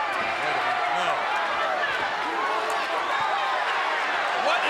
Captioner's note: crowd yelling